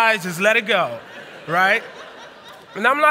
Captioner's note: laughter